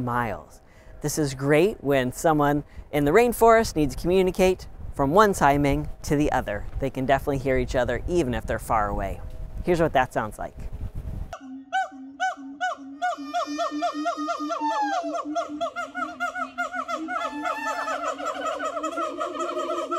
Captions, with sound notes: miles. This is great when someone in the rainforest needs to communicate from one siamang to the other. They can definitely hear each other even if they're far away. Here's what that sounds like. [siamang calls - oh oh ooh oh]